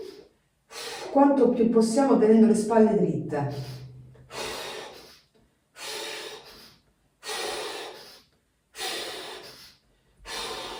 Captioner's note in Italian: sbuffare